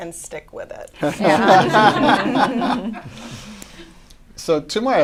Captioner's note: laughter